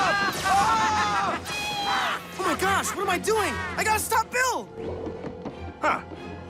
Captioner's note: cheering